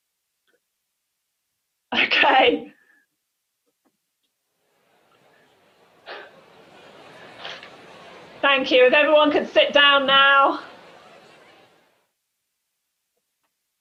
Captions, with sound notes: Okay. (group chatter) Thank you, if everyone could sit down now.